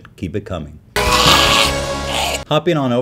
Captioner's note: screeching